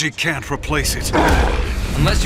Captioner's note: grumbles